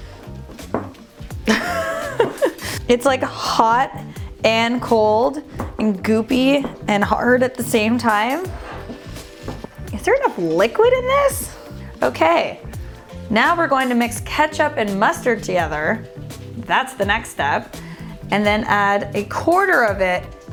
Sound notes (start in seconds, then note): 1.5 laughing